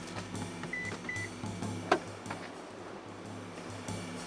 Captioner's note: percussion music; vehicle beeping